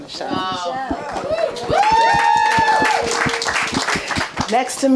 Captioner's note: audience applauding and cheering